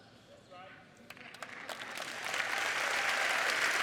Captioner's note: applause